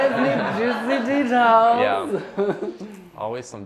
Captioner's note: laughter